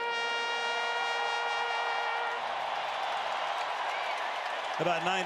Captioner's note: cheering